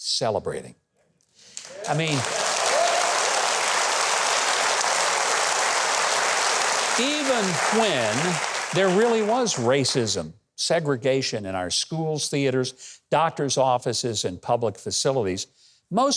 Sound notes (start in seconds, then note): 2.1 audience cheering